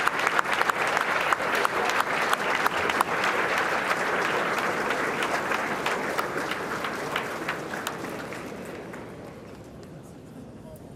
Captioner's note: applause